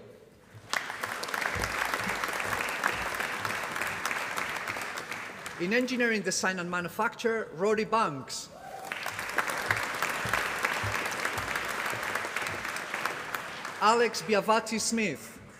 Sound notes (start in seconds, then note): 0.5 applause; 8.7 applause